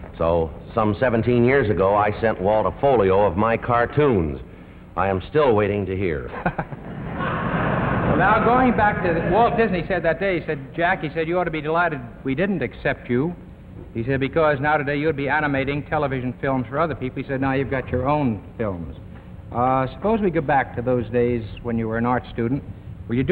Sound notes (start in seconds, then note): 6.3 laugh; 6.3 audience laughs